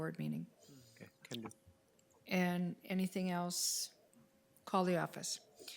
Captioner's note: speaks faintly